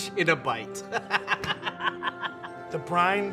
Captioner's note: laughing